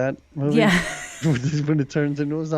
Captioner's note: laughs